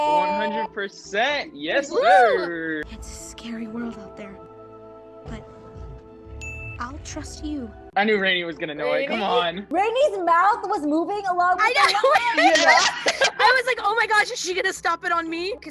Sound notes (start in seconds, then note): 6.4 ding; 11.7 laughs